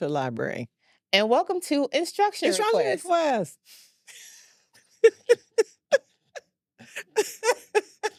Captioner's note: stammering; both laugh